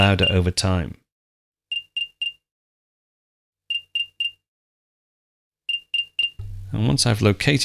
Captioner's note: buzzing